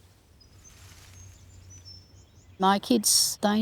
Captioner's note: leaves rustling